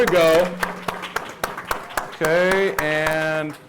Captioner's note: applause